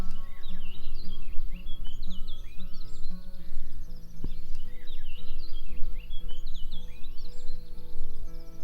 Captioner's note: birds chirping